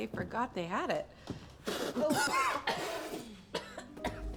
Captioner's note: coughing